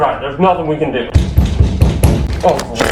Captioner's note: pounding on door